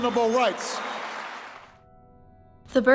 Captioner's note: applause